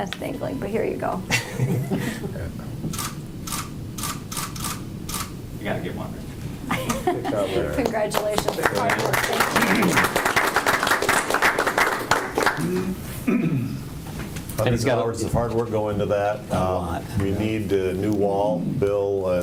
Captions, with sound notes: It's dangling, but here you go. (shutter clicks) You gotta get one Rick. (laughs) Congratulations, hard work, thank you. (applause) Loads of hard work go into that. We need a new wall.